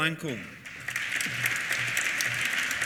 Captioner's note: applause